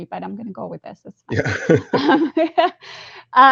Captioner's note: laughter